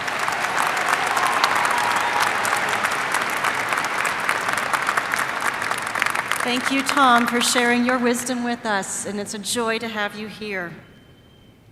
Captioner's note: applause